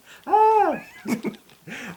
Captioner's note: laugh